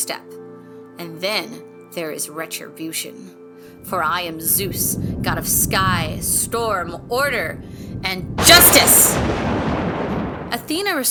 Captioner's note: thunderclap